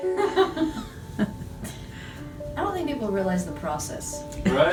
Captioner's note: laughs